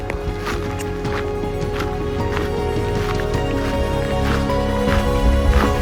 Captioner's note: upbeat music; footsteps